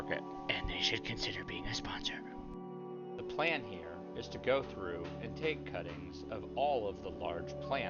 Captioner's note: whispered: and they should consider being a sponsor